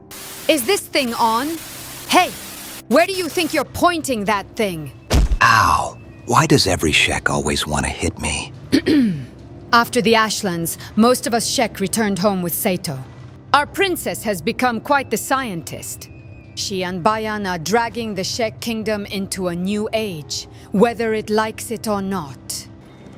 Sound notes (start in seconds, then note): 8.7 ahem